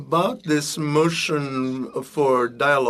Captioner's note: speaking French